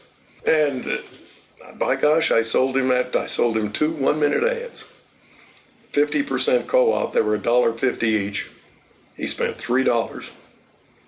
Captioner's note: laughs